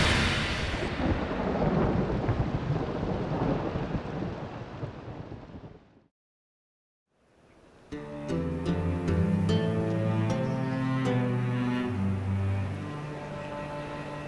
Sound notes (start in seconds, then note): 0.0 thunder crashes; 4.3 sound of storm fades; 7.8 gentle tune